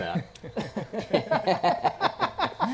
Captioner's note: laughter